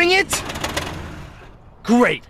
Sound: engine dies

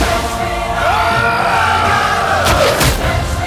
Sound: Hanuman roaring

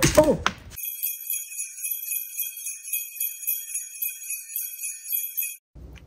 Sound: sleigh bells

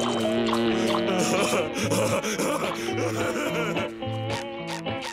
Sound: laughing

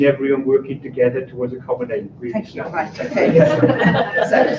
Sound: laughter

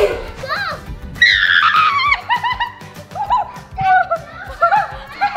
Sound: screaming and laughing

